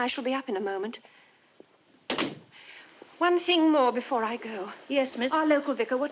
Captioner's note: door closes